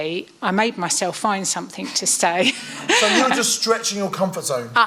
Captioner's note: laughs